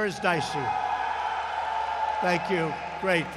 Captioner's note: applause